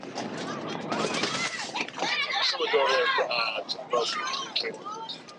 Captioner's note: crowd chattering